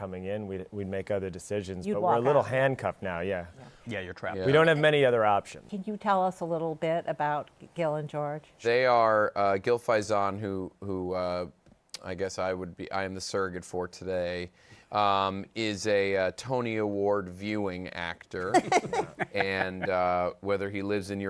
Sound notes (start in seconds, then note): 18.5 laughter